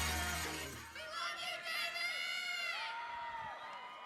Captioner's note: crowd